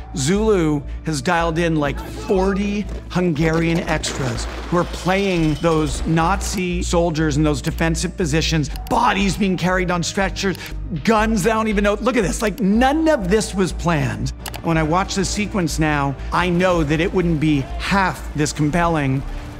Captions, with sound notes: Zulu has dialed in like 40 Hungarian extras who are playing those Nazi soldiers in those defensive positions, bodies being carried on stretchers, guns, I don't even know. Look at this. Like, none of this was planned. (computer mouse clicking) When I watch this sequence now, I know that it wouldn't be half this compelling